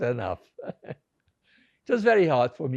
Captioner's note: laughing